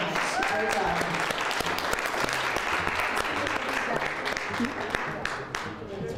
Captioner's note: applause